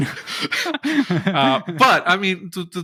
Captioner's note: laughing